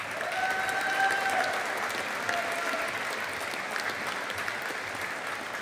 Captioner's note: audience applauding